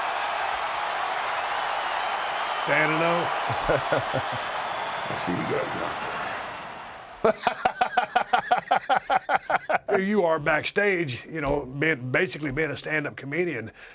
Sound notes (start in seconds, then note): 0.0 applause; 6.8 laugh